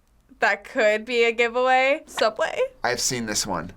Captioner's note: hesitant